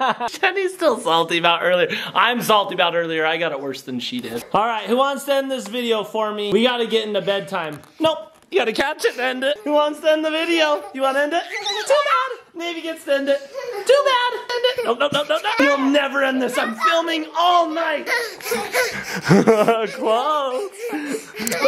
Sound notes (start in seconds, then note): 18.0 panting